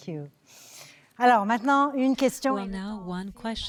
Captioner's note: speaking French